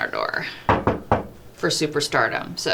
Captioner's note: knocking